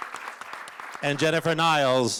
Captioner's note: applause